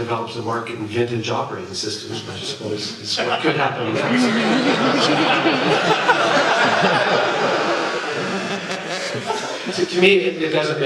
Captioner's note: laughter